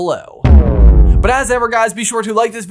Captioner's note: logo thudding